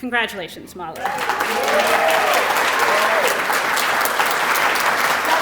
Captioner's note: applause